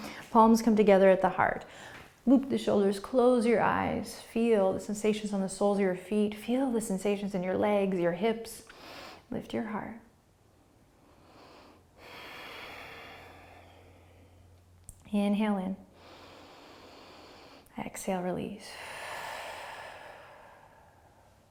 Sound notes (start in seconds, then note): 11.0 breathing; 16.0 inhaling; 18.7 exhaling